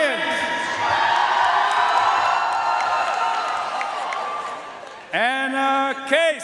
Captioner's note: audience cheering and applauding